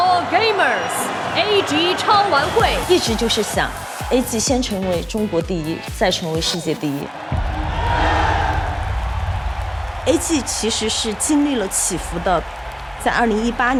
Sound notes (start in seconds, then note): 1.8 speaking in Chinese; 6.0 crowd cheering